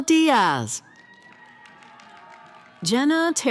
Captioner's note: cheering & applause